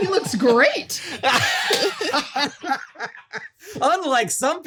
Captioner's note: laughs